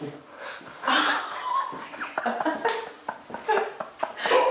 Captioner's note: all Laughing